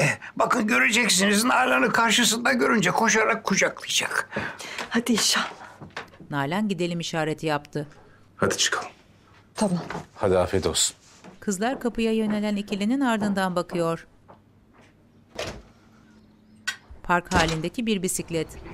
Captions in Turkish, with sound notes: Bakın göreceksiniz, Nalan'ı karşısında görünce koşarak kucaklayacak. Hadi inşallah. -Hadi çıkalım. -Tamam. Hadi, afiyet olsun. (Ayak sesi) (Kapı açılma sesi) (Kapı kapanma sesi)